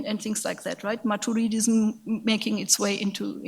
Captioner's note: speaks in a foreign language